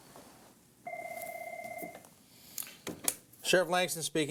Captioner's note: phone rings